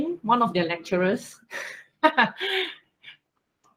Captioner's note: laugh